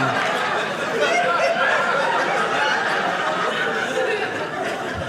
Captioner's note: audience laughing